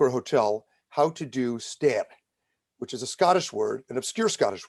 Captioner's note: speaking in Scottish